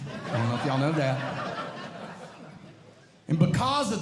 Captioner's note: audience Laughing